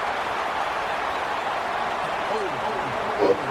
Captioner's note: crowd Noises